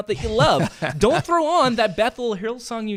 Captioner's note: laughs